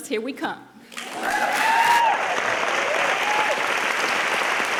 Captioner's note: audience applauding